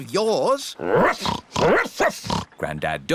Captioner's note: snorting; barking